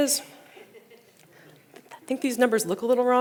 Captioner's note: audience laughing